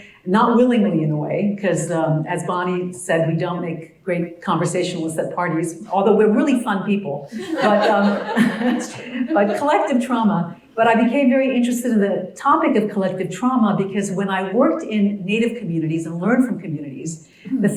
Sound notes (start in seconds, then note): 7.4 laugh